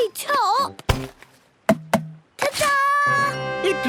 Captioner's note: tapping